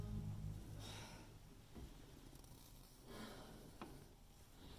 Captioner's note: Leona sighs